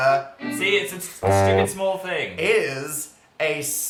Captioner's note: failure sound effect